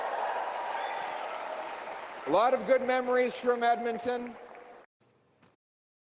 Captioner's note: crowd Noise